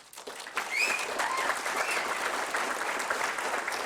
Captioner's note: applause